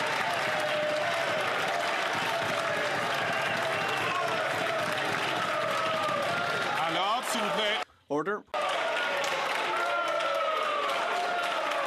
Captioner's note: some Applause